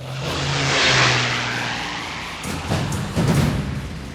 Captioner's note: aircraft engine roars; dramatic music